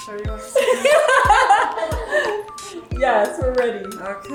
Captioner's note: laughing